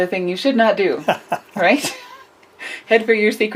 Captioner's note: laughs